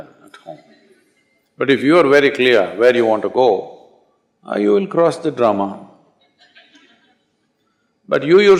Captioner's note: laughter